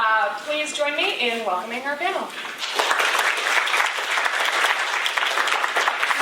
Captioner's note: applause